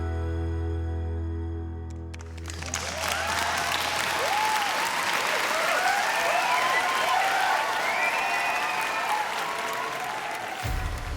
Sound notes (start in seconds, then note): 2.1 cheering and applause